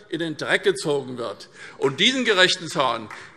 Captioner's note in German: Beifall SPD